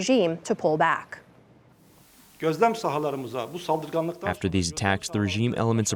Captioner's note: through translator